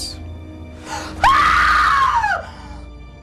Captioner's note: loud scream